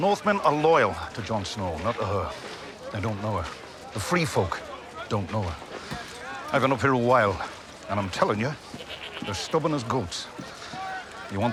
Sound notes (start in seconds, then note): 8.6 goat bleating